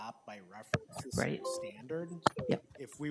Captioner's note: speaks faintly